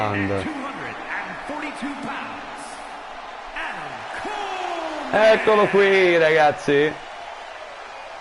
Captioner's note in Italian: Applauso